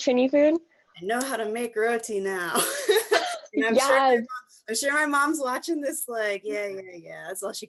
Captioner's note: laughs